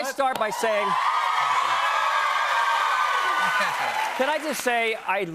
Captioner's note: cheers and applause